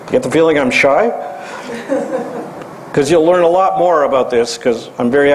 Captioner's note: laugh